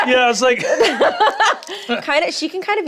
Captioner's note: both laughing; laughs